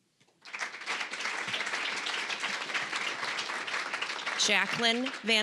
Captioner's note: applause